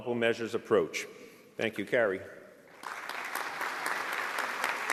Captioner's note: applause